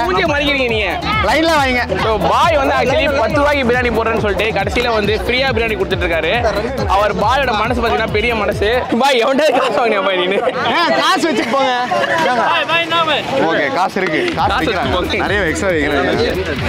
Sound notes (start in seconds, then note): 12.9 crowd